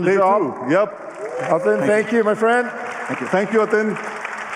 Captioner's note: applause